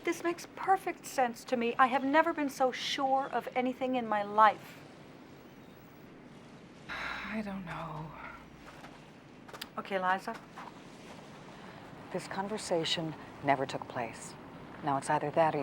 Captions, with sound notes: - This makes perfect sense to me. I have never been so sure of anything in my life. - (sighs) I don't know. - Okay, Liza. This conversation never took place. Now, it's either that or you turn me in.